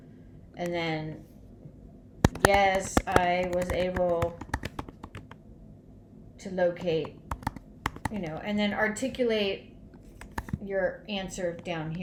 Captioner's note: typing sound